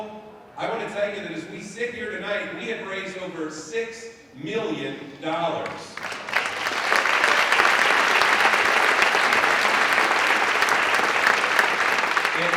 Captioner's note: applause